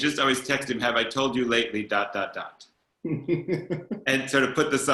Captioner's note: chuckles